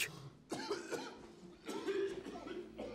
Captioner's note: coughs